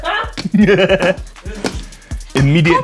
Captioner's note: laughter